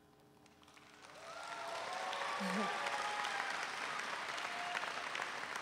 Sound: audience cheering

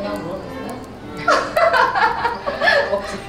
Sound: everyone laughs hard

